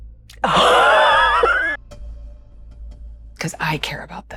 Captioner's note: gasping